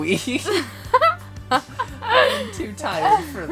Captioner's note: laughs